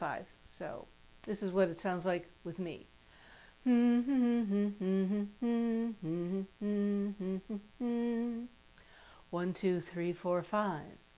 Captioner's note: humming